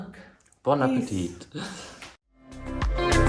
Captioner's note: speaks in foreign language; upbeat music